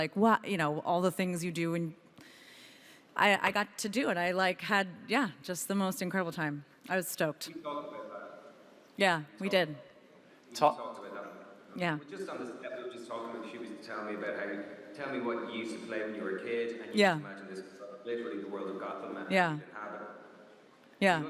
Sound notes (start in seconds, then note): none